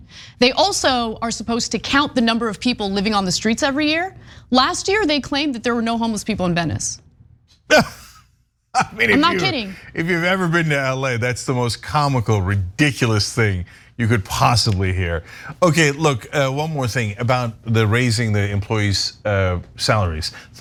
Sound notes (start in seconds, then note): 8.7 laugh